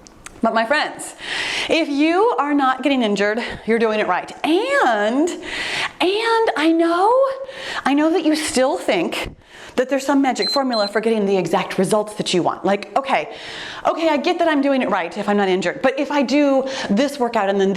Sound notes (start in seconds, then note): 10.4 timer beeps